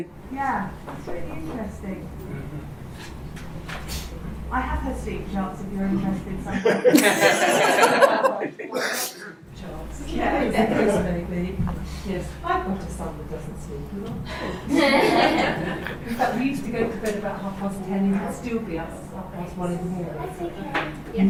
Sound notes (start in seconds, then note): 6.4 audience laughs; 14.2 audience laughs